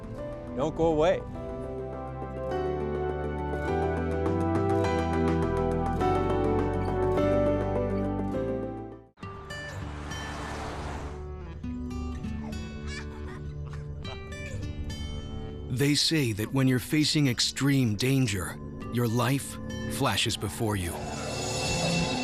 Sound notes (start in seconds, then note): 2.0 uplifting music; 9.3 acoustic music; 14.0 laughter